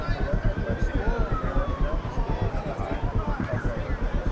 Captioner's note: distant sirens